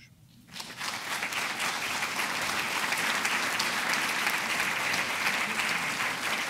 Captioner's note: audience applauding